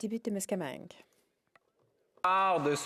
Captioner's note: speaking French